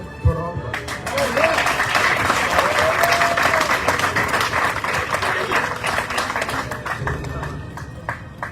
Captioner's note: audience cheering, applauding